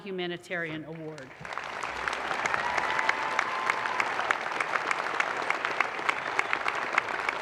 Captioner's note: audience applause